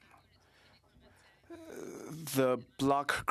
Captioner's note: speaking French